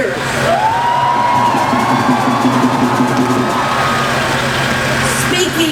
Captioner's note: crowd cheering